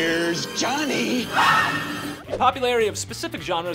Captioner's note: screaming